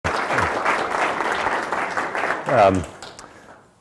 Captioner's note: applause